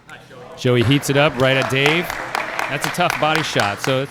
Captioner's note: applause